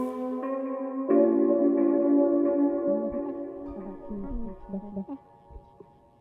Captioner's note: distant chatter